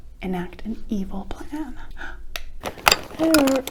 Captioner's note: gasp